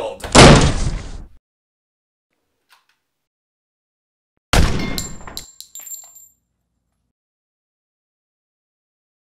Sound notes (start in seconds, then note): 0.2 door slams open; 4.5 gun shot